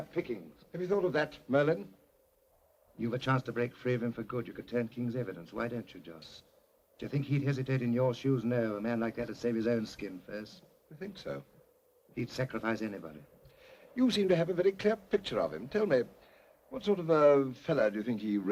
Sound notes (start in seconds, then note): none